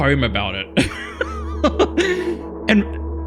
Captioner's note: laughs